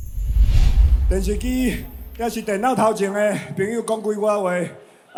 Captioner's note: man speaking Mandarin